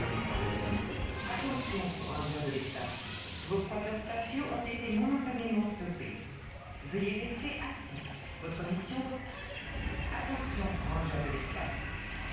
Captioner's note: ride announcement in French